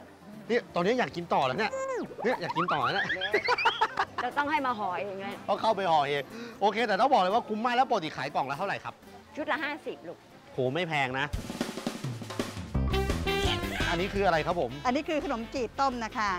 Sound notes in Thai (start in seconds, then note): 1.6 เสียงหัวเราะ